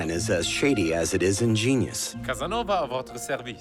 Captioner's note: Casanova speaking French